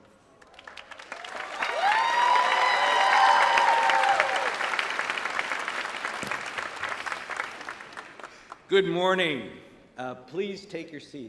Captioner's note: applause